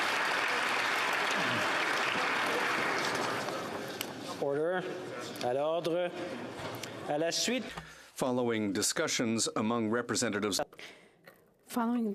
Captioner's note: some Applause